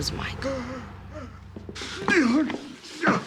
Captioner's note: groaning